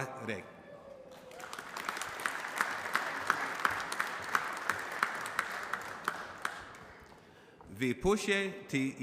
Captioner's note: applause